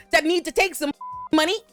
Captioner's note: beep